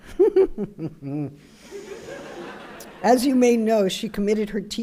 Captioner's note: laughter